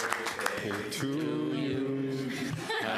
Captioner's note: applause